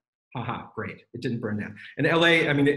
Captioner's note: laughs sarcastically